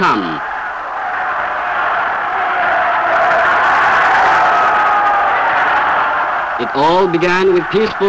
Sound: crowd roaring

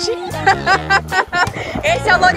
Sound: laughs

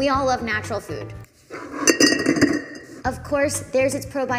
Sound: bottles clinking

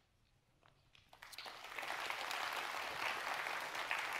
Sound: audience clapping

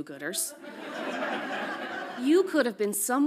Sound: audience laughs

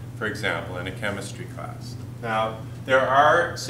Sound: none

